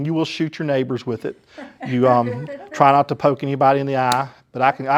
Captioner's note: laughter